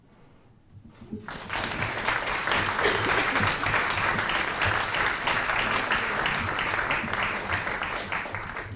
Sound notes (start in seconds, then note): 1.2 applause